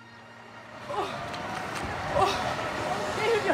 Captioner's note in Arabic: صوت لأشخاص يتدافعون ويصرخون، في الخلفية